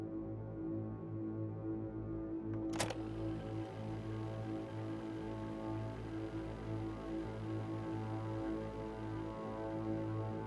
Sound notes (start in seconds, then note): 2.6 tape machine whirring